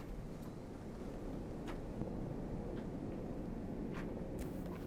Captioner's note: wind blowing